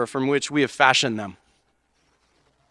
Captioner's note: none